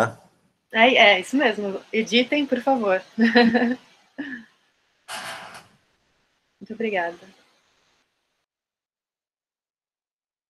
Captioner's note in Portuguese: risos